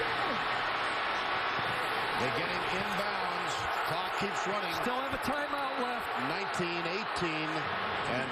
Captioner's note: crowd noise